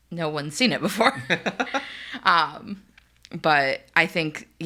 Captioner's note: laughing